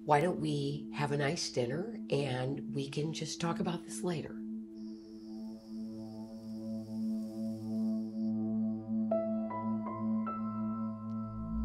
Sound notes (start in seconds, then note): 4.4 crickets chirping; 8.3 pensive music playing